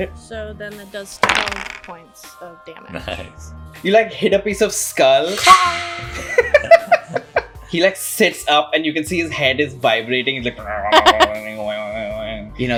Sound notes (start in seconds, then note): 5.2 clang; 6.1 laughter